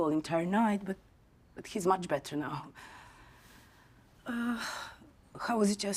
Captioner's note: exhales